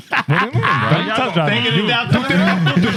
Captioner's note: laughter; speaking Spanish; laughter; speaking Spanish